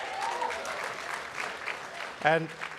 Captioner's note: applause